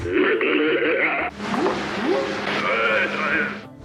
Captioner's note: growling; whooping; chatter